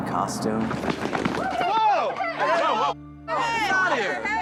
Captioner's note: clamoring